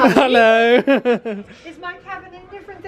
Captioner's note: laughing